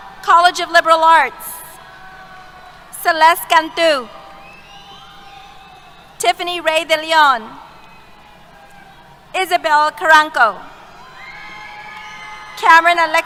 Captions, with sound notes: College of Liberal Arts. Celeste Cantu. [ Applause ] Tiffanny Ray Dillion. Elizabeth Carranco. Cameron Alexis Carrillo.